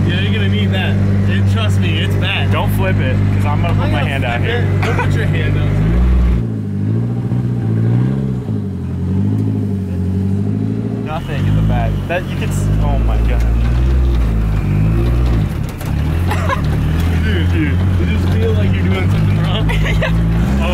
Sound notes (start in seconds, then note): 6.5 engine revving; 16.1 laughing